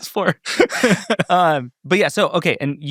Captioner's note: people laughing